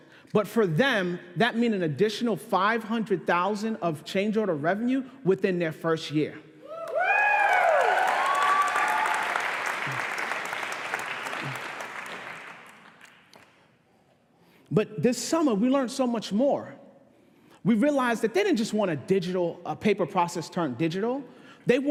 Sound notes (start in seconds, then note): 6.8 applause